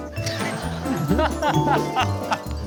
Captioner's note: bursting into laughter